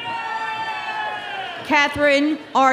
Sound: audience cheering

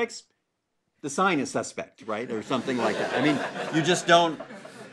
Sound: laugh

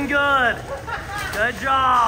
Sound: person laughs

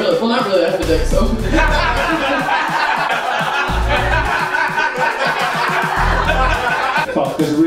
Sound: laughter

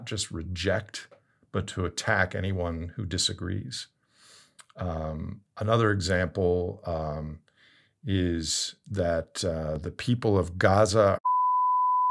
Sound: beep

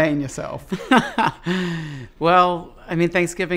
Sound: laughs

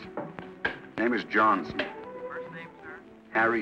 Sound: on phone

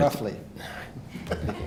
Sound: laughter

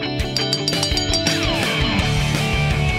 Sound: bell ringing

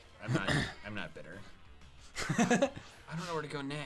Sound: laughs

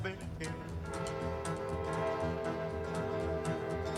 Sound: train whistle blows

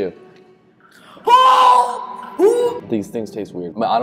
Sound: gagging

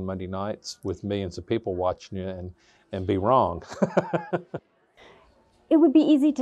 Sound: laughs

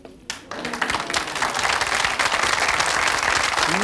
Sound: audience claps

